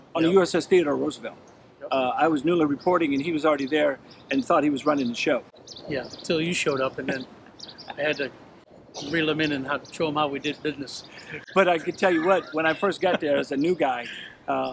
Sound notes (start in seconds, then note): 11.0 laughs